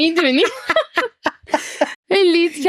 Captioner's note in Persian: خنده